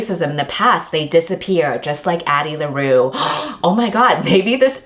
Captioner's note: gasps